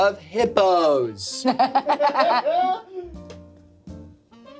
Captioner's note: everyone laughs